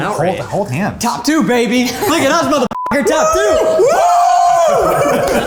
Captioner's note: beep